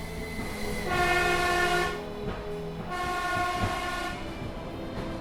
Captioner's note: train hissing